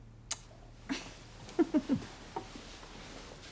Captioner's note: chuckles